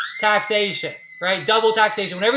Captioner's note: screaming